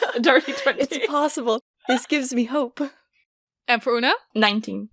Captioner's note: laughing